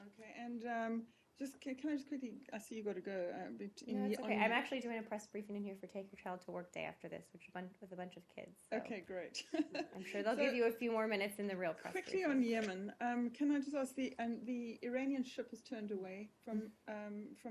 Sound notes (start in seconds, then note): 9.3 laughter